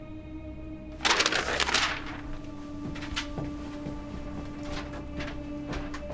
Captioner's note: papers rustling; footsteps tapping